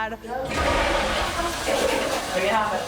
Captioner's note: toilet flushes